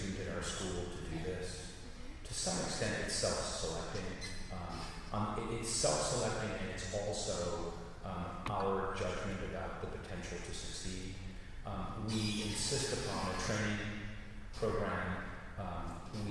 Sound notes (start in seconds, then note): none